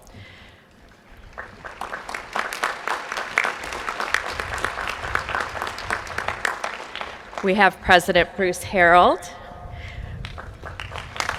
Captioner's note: applause